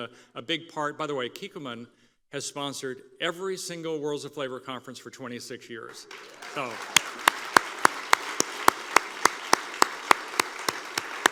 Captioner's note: applause